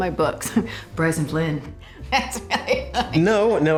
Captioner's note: drucinda laughing